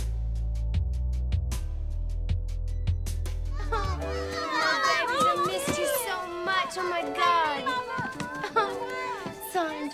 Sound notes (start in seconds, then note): 0.2 light percussive music; 3.6 children chattering